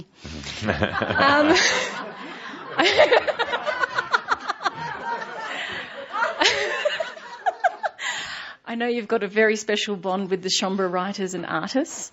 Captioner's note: laughter